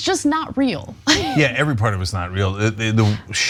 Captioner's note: laugh